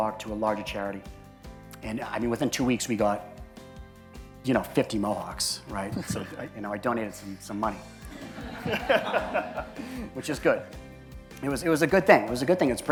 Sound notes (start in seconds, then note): 5.9 chuckling; 8.1 crowd laughs; 8.2 laughs